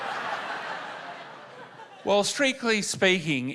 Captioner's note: laughter